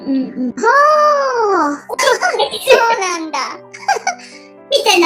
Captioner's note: laughs